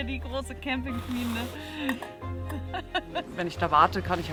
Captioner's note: laughs